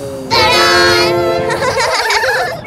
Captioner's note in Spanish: Risas